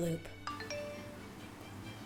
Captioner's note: phone notification rings